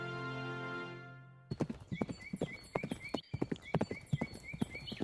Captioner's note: birds chirping and hooves galloping